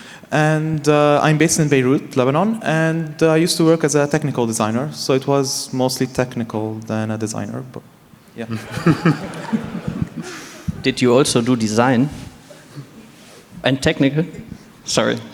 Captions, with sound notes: I am based in Beirut, Lebanon, and I used to work as a technical designer. It was more technical than a designer, but, yeah. [Laughter] >> Did you also do design and technical? Sorry.